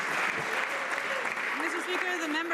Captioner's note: some Applause